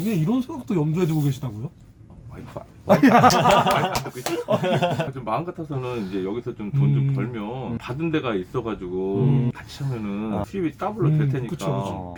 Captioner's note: laughing